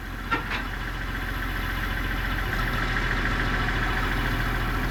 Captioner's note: tractor motor running